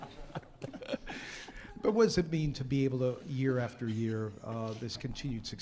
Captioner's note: laughter